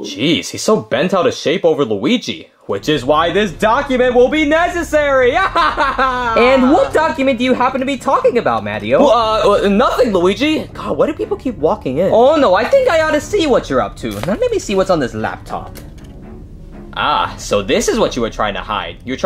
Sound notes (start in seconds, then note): 5.0 laughing; 15.8 suspenseful music